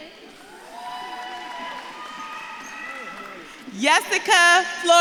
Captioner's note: audience claps and cheers